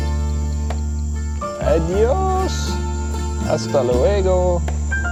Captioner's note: Spanish spoken audio